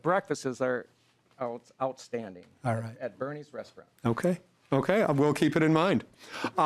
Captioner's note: laughing